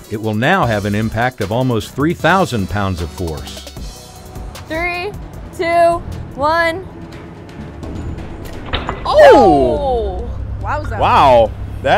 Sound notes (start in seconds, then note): 6.9 dramatic music continues; 8.4 bolt clunks